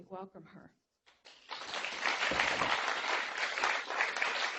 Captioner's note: applause